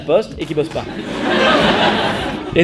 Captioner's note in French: rires